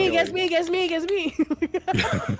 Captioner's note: clapping